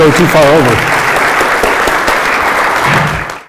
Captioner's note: audience applauding